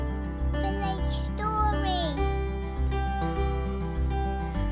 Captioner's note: child's voice